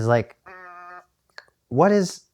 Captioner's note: toy sound